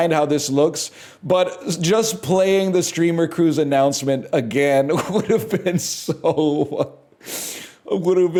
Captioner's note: cracks up